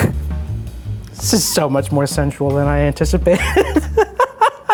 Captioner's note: laughs